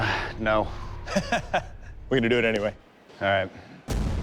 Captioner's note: laughter